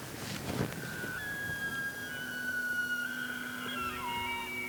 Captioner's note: elk bugles